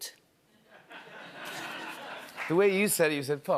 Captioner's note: laughter